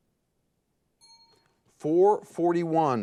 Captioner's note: timer beeping